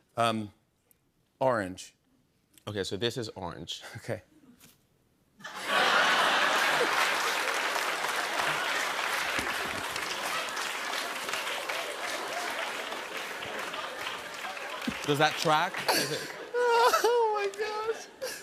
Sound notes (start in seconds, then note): 5.4 laughter; 8.0 applause; 15.4 laughter continues